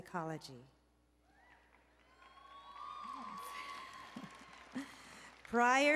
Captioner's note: applause and Cheering